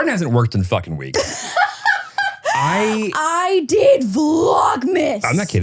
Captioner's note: laughs